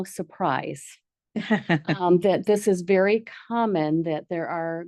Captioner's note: board member laughs